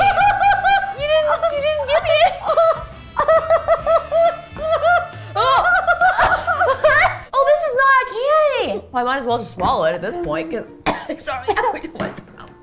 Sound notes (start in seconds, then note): 2.4 continues yelling in pain; 6.0 both yelling in pain, Justine coughing; 10.8 coughing